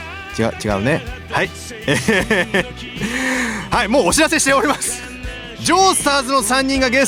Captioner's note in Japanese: 笑い